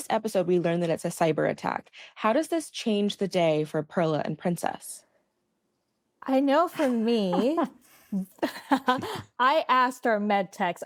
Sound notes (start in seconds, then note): 8.0 chuckles